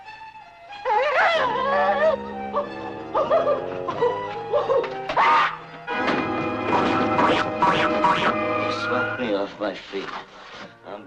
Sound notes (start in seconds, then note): 0.8 whimpers